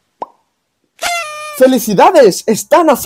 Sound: party horn

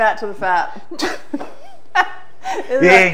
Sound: both laugh

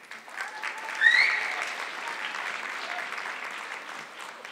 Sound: audience clapping

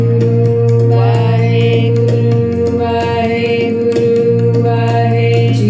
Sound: chanting in foreign language

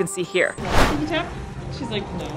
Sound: whooshing sound effect

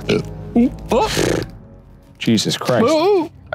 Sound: burps

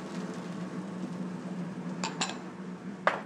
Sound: sizzling

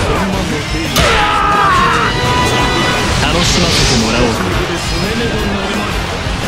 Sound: KO Scream

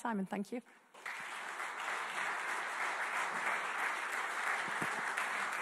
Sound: audience clapping

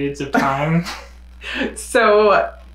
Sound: chuckles

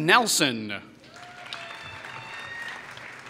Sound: applause

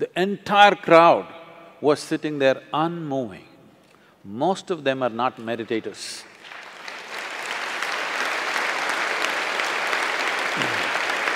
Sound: applause

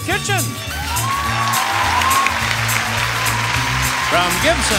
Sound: upbeat music; audience cheering

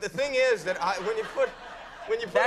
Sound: audience laughing

